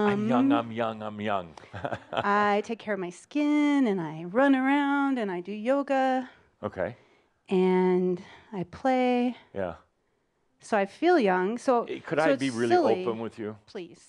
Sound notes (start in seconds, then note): 1.6 Adamus chuckles